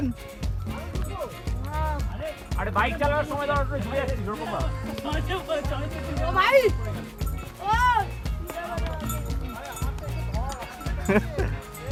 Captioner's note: laughs all around